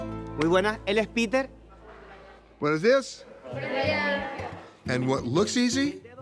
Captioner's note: speaking in Spanish